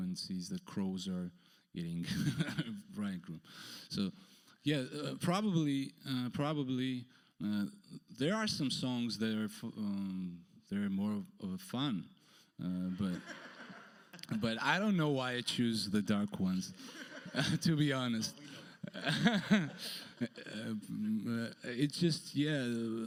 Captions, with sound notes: and sees the crows are getting bridegroom. So yeah, probably there are some songs that are more fun. (audience laughs) But I don't know why I choose the dark ones, to be honest. - Oh, we know. (laughs) - (laughs) It's just, yeah,